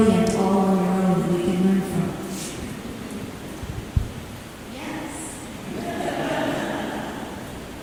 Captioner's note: chuckling